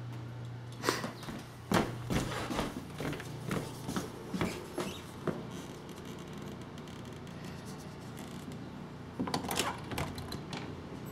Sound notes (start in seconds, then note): 0.8 sniffs; 4.2 squeaking floor boards